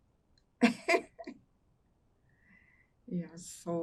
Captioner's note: laughing